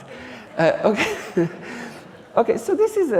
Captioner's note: audience laughing